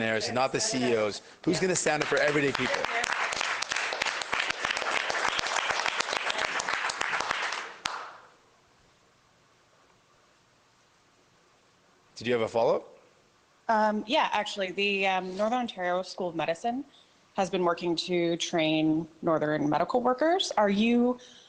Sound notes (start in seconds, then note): 6.2 applause